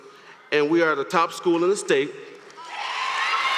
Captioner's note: applause